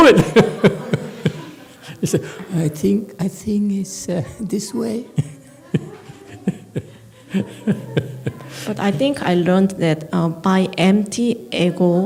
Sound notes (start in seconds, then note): 0.0 laughs; 2.8 lowers voice; 5.1 laughs